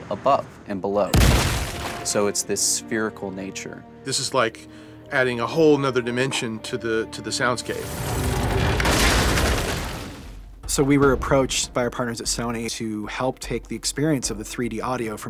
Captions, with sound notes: above, and below. So it's this spherical nature. This is, like, adding a whole 'nother dimension to the sounds game. [CRASHING] [FIRE CRACKLING] So we were approached by our partners at Sony to help take the experience of the 3D audio